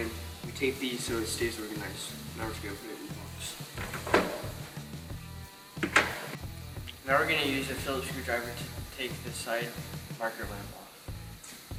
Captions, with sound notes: and you tape these so it stays organized. Now we're just gonna put it in the box. (parts thudding) Now we're gonna use a Phillips screwdriver to take the side marker lamp off.